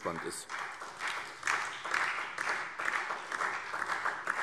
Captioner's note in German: Beifall SPD